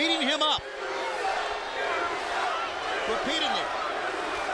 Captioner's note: audience chanting